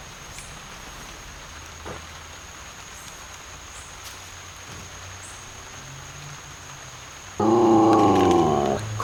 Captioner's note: dog growling